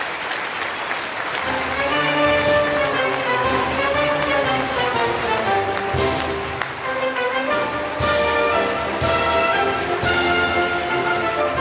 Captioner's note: applause; band playing